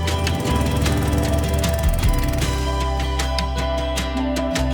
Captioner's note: engine roaring